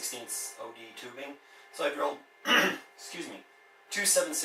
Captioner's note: clears throat